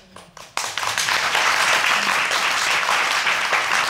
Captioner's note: audience applauding